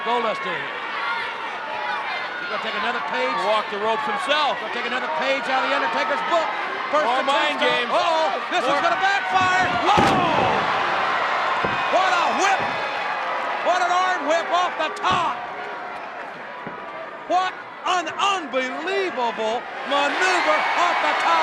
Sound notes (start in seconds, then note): 10.8 audience cheers